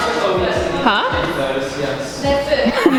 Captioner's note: laughing